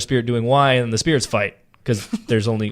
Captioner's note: laughing